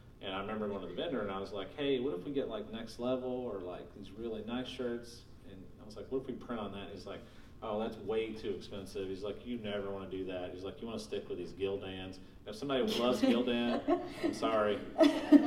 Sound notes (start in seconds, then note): 12.9 laughing